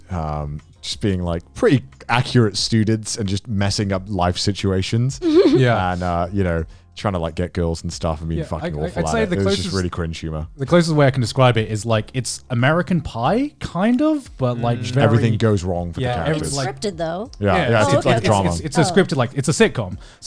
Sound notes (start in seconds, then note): 5.2 laughing